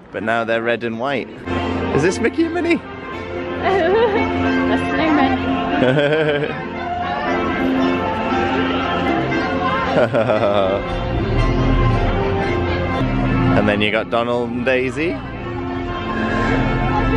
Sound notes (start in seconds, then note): 5.8 laughter